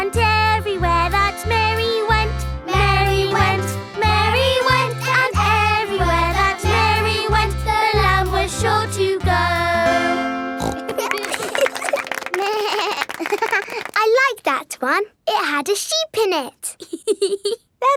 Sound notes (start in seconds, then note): 10.6 snorts; 10.6 laughing; 12.4 bleats and laughs; 16.7 laughs